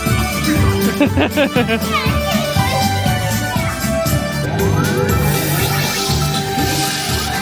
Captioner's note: bright music continues; laughing